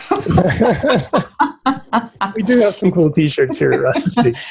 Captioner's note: laughs